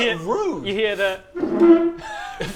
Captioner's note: chair squeak